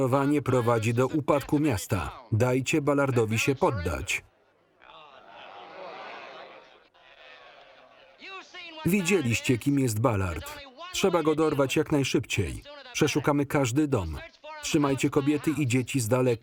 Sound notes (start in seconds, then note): 4.9 crowd groaning